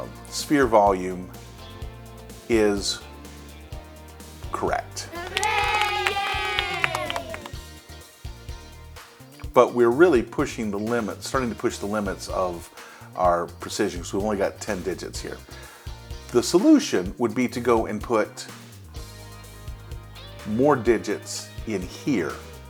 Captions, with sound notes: sphere volume is. Correct. [ Children cheering ] But we're really pushing the limits, starting to push the limits of our precisions, we only got 10 digits here. The solution would be to go and put more digits in here.